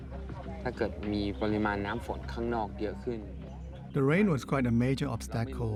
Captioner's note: speaking Thai